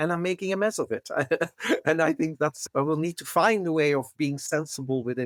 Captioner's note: laugh